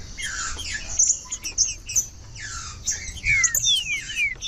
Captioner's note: trinca ferro cantando